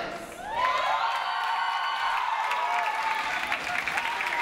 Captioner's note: audience applauds